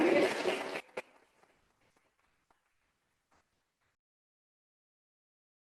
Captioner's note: applause